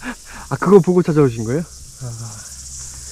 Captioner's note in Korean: 감탄